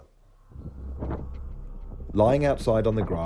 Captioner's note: wind rustling